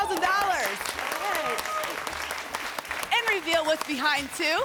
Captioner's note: applause